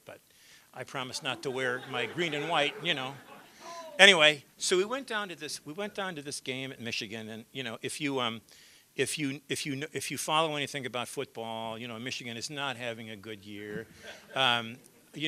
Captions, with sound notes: BUT I PROMISED NOT TO WEAR MY GREEN AND WHITE, YOU KNOW [LAUGHTER]. ANYWAY, SO WE WENT DOWN TO THIS, WE WENT DOWN TO THIS GAME IN MICHIGAN AND YOU KNOW, IF YOU FOLLOW ANYTHING ABOUT FOOTBALL, YOU KNOW, MICHIGAN IS NOT HAVING A GOOD YEAR [LAUGHTER].